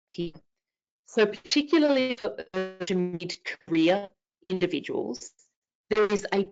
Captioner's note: audio cutting out